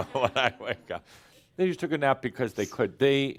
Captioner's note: some chuckles